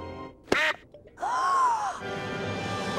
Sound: gasps; cheering

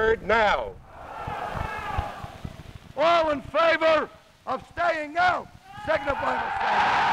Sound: wild crowd

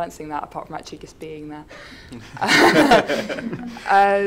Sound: chuckles

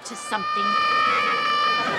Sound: screaming

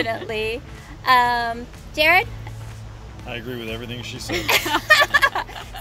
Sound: all laugh

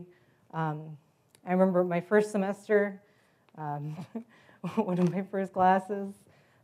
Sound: laugh

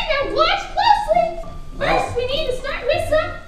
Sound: voiceover

